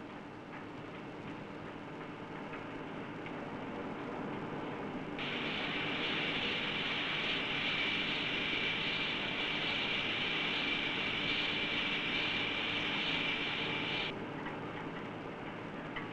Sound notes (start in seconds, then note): 5.2 sound of machinery